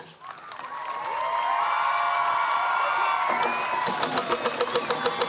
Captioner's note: cheering, applause; drumbeats and singing continue